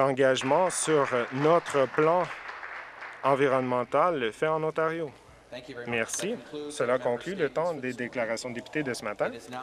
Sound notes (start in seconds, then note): 4.5 applause